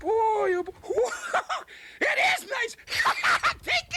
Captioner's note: laughs; laughs